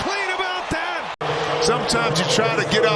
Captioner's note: crowd noise